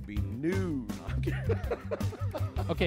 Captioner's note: laughs